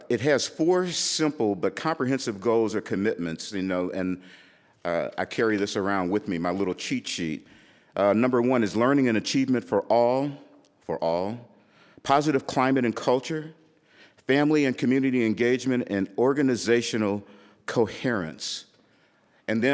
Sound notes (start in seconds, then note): none